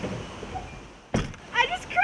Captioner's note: door closing